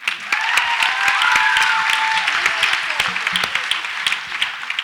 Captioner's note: audience applauds and cheers